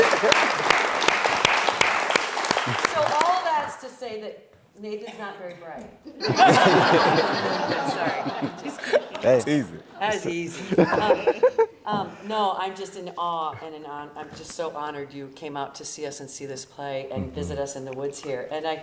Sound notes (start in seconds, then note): 0.0 audience applauding; 6.2 audience laughing